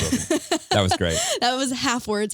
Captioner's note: laughing